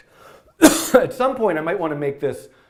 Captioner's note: coughing